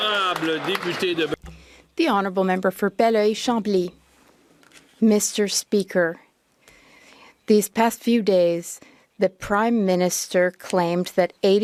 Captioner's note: some Applause